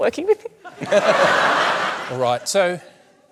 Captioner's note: laughter